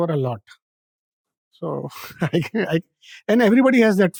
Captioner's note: chuckles